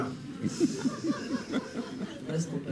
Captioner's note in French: rires